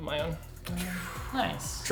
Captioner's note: exhaling